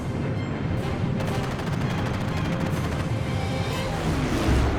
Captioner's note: gunfire